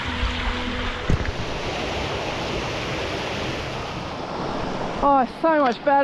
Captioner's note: water rushing